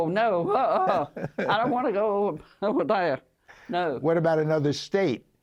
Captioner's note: laughter